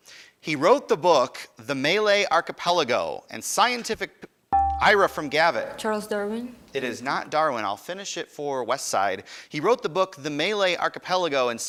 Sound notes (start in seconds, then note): 4.6 buzzer dinging